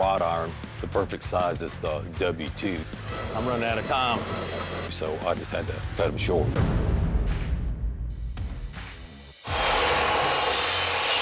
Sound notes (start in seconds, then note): 3.6 machine buzzing; 6.1 suspenseful music; 9.5 machine buzzing